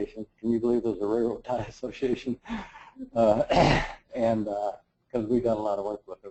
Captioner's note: laugh